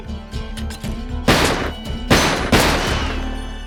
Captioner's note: gunfire